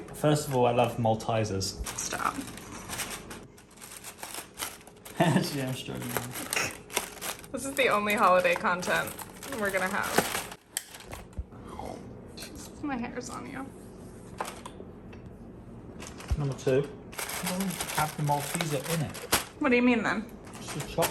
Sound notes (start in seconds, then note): 3.7 wrap rustling; 5.1 chuckling